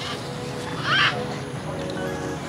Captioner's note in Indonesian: Suara Burung